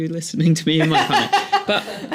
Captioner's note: laughter